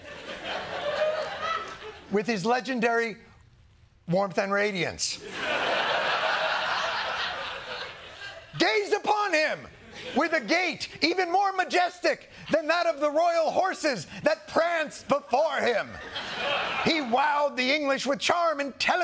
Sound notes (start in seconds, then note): 5.2 laughter